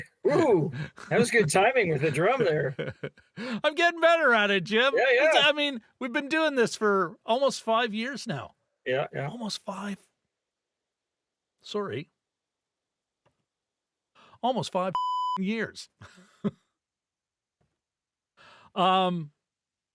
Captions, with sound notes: Ooh, that was good timing with the drum there. I'm getting better at it, Jim. I mean, we've been doing this for almost five years now. Yeah, yeah. Almost five, sorry. Almost five (beep) years. (laughs)